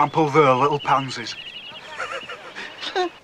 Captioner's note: laughs